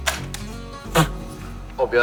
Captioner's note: laughing!